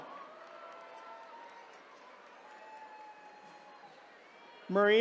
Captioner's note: attendees cheering